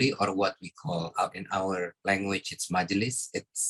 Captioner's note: non-english